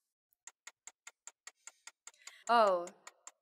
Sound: clock ticking

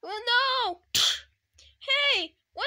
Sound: slap

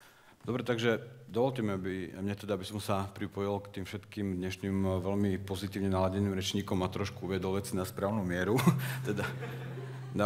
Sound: laugh

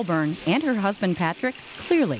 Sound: sizzling

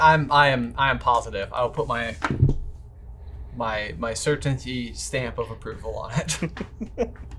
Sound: laughs

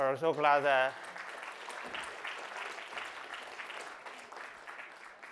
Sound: applause

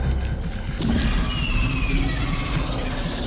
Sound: roars

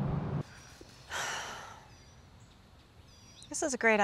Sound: Alex sighs deeply

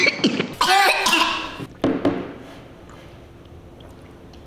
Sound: coughing

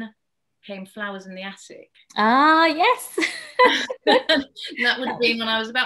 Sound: laughs

